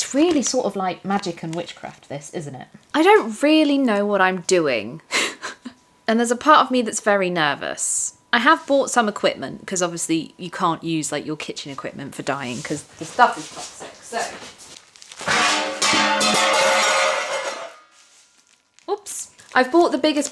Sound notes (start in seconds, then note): 18.2 crash